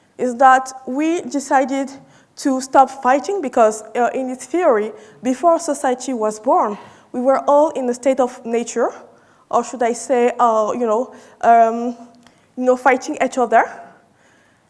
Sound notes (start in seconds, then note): none